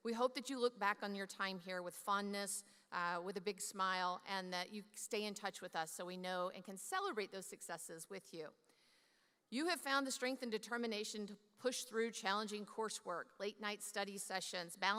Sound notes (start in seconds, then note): none